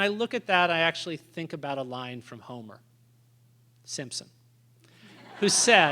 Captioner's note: laughter